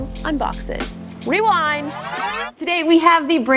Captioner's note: tape rewinding